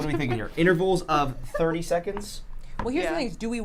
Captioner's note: chuckles